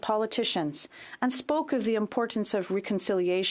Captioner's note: speaking French